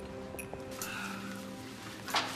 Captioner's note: sighing